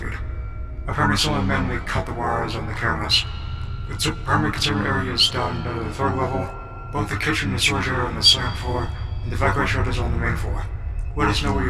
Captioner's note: intercom